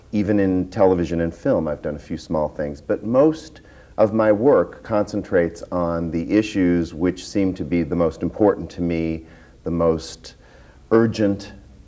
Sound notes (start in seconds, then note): none